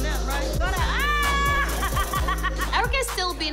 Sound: laughing

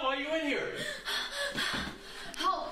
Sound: panting

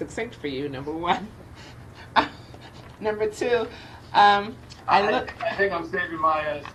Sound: laughs

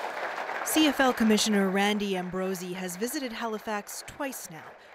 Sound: applause

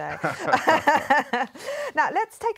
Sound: laughs

